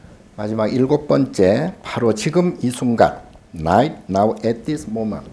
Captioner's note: speaking Korean